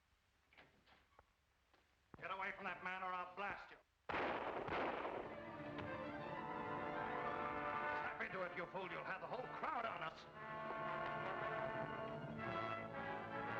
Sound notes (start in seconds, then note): 4.1 gun bangs; 5.3 dramatic music